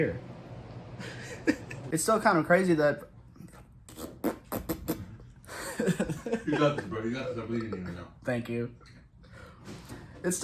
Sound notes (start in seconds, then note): 3.9 blows raspberries; 5.5 laughter